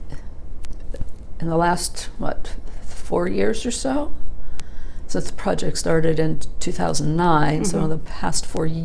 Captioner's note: murmurs “mm hmm”